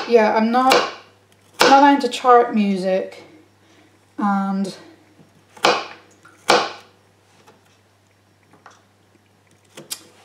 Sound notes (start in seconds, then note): 6.4 chopping